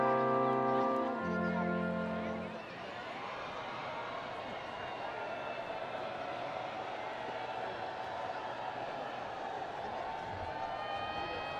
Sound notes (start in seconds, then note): 2.6 students cheering and screaming